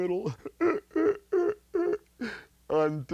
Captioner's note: laughs